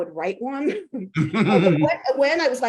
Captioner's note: chuckling